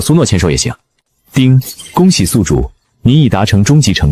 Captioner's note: chime